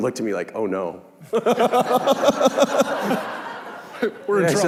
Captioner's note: laughing